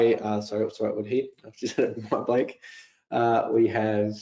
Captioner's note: chuckling